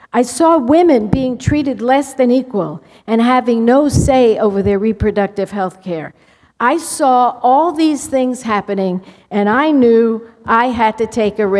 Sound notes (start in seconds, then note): none